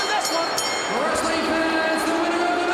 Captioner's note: bell ringing